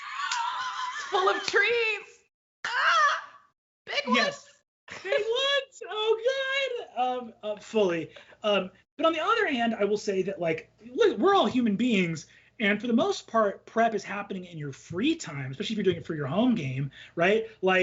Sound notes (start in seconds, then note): 0.1 laughs; 4.0 moans